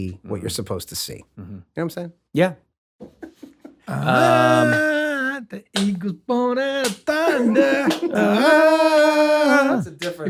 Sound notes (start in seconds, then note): 3.1 laughter; 4.7 jointly singing